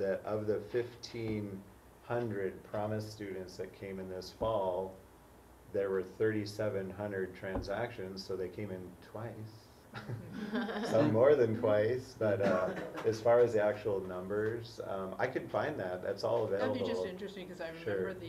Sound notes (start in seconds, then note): 10.0 laugh